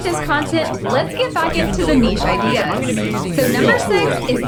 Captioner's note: many many many more dumb dumbs talk in the background